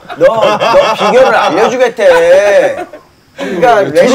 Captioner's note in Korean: 속닥